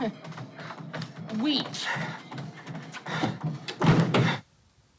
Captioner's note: thudding